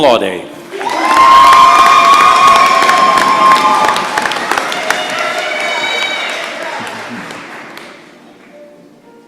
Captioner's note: applause and cheers